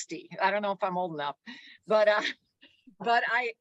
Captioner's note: chuckles